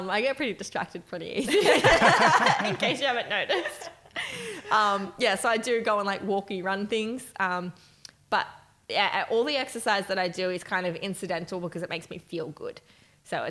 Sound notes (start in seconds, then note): 1.5 laughing